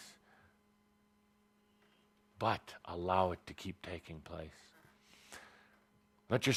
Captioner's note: none